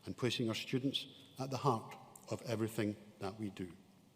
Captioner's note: none